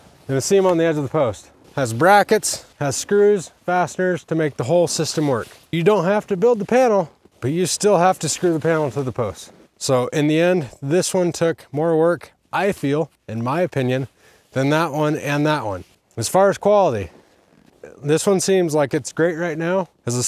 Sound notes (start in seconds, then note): none